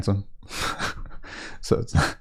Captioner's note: laughs